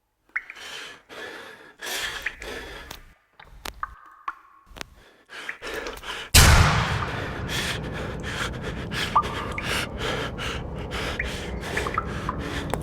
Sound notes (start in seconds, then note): 0.7 breathing; 1.9 water dripping; 12.6 footsteps